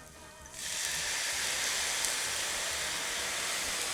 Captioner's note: wine hissing